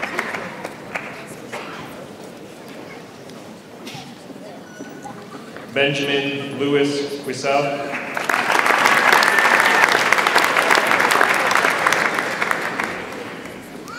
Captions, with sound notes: Benjamin Lewis Wissail. (audience applauds)